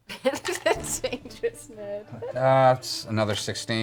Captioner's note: laughs